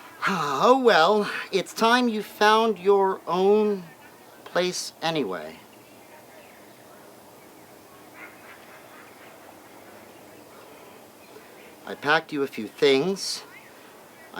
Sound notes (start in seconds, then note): 6.0 birds chirping